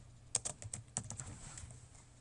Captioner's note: typing